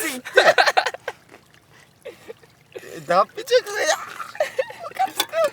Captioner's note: laughs